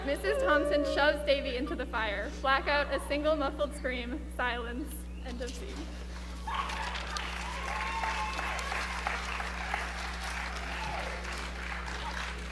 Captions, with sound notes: - Mrs. Thompson shoves Davy into the fire. Black out, a single, muffled scream, silence, end of scene. (crowd claps and cheers)